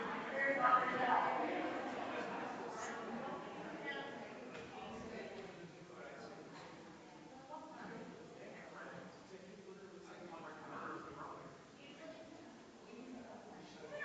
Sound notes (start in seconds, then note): 7.1 people chattering distantly continues